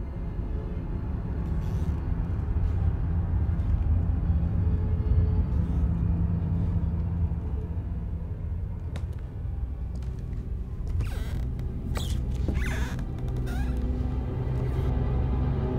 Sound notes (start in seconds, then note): 7.0 ominous music continues; 10.7 floorboards creaking